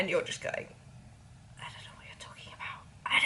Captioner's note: whispers